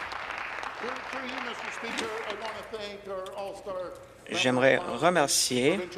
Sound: applause

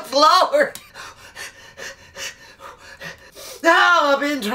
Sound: lamaze breathing

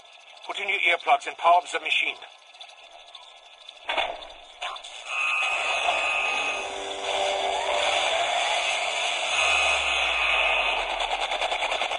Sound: teleporting noise is heard

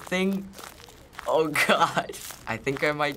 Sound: chuckles

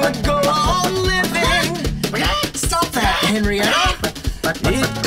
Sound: chicken noises

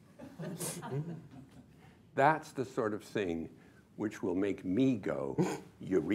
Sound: laughter

